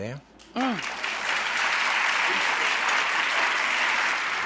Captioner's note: clapping